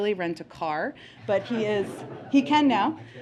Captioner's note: laughter